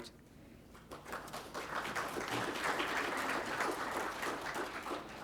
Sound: applause

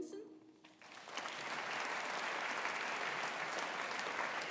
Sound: audience applauding

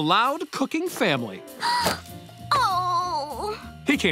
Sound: gasps

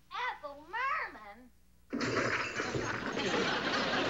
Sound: loud crashing

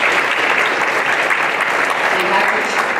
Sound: applause

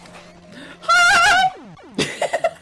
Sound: distressed screaming

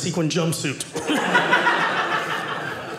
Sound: audience laughing

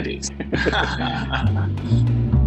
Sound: laughing; upbeat music

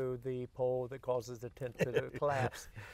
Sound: both laugh

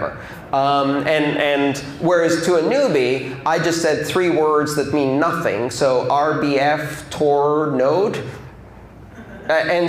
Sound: laughter

